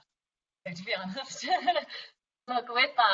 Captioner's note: laughs